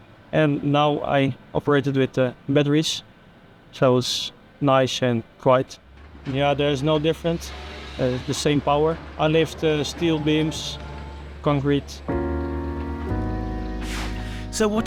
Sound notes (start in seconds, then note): 10.9 crane whirring softly; 12.0 soft music